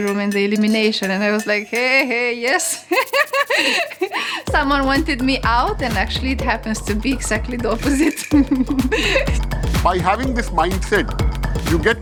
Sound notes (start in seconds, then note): 2.6 laughs; 7.8 giggling